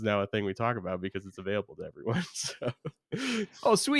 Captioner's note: laughs